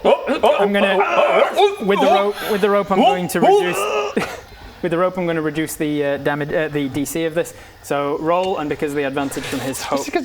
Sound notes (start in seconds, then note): 3.0 eeeeeeegh